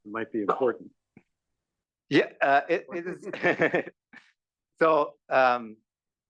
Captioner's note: laugh